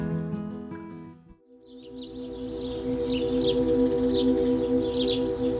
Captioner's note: birds chirping